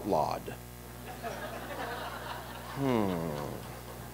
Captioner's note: laughter